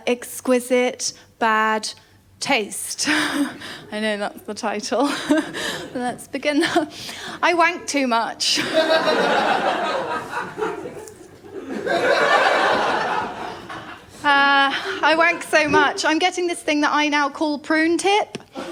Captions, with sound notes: Exquisite Bad Taste. I know, that’s the title. Let’s begin. I wank too much. [LAUGHTER] [MORE LAUGHTER] I wank so much I’m getting this thing that I now call prune tip.